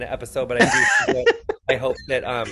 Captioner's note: laughing